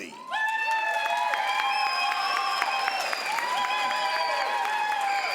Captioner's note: crowd applauds